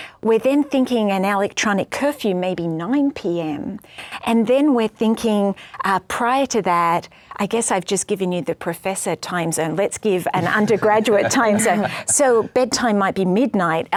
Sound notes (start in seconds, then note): 10.3 everyone laughs